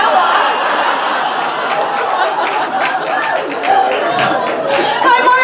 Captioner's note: audience laughter and cheers